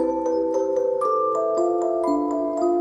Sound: none

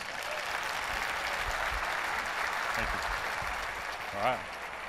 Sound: applause

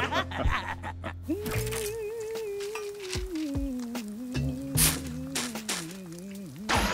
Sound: both laugh; humming

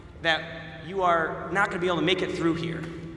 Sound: none

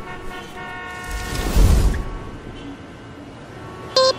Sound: fwoosh

